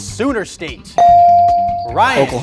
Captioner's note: bell dings